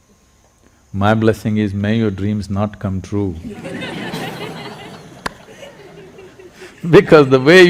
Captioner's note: laughter